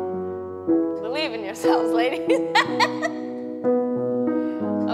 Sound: laughing

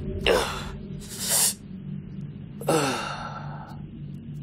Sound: Papi grunts

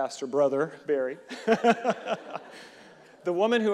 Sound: audience and reverend laughing

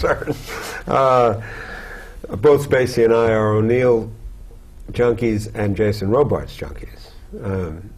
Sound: laughter

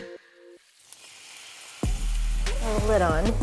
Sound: liquid sizzling

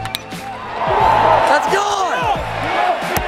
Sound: ball hitting bat

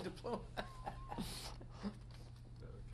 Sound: laughs

